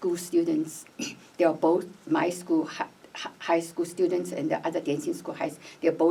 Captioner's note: clears throat